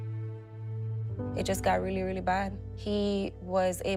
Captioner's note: none